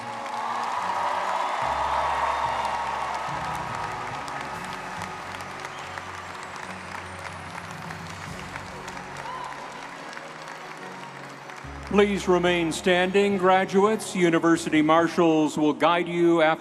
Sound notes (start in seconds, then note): 0.1 audience cheering; 0.1 triumphant orchestral music; 7.7 audience applauding